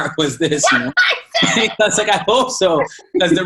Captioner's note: squealing